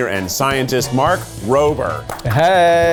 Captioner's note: clapping